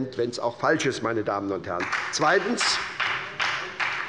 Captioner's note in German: Beifall bei der SPD